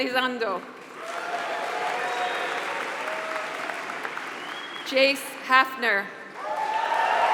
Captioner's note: applause